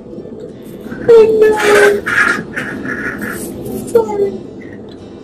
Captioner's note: crying